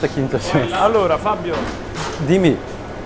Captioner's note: Italian